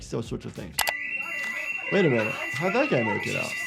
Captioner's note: alarm blares